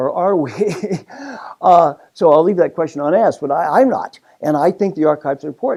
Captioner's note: laugh